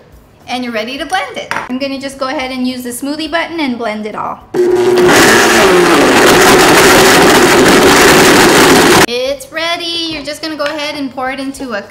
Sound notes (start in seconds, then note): 4.5 blender whirring